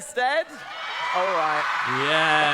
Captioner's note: audience cheering